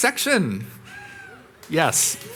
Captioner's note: audience cheering